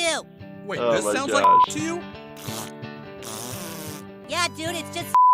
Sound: beep; beep

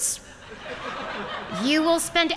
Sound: laughter

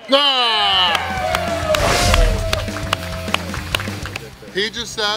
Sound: cheering & Clapping

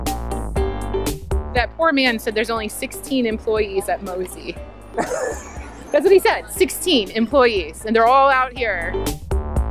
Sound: laughs

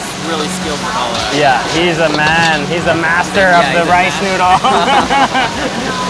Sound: laughs; food frying loudly

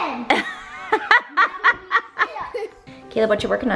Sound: laughing

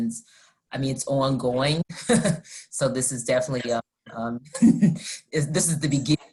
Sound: laughter

